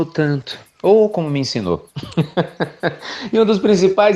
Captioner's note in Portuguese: Risos